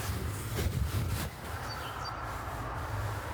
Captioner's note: birds chirping